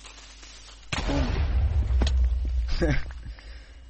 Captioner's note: laughs